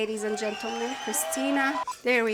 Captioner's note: crowd cheers